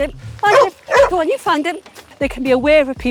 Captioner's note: Amber continues barking